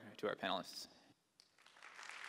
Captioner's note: applause